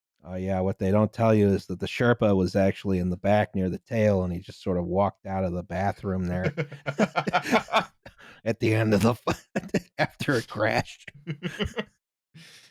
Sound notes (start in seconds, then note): 6.4 laughter; 6.4 laughing; 11.1 laughter